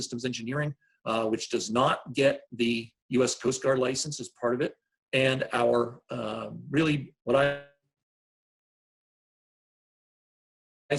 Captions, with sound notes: Engineering, which does not get the US Coast Guard license as part of it, and [audio cuts out]